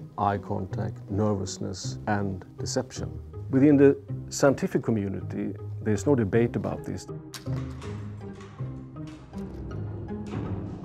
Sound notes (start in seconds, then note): 7.3 clicking echoes